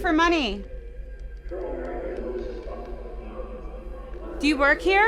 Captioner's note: distorted speaking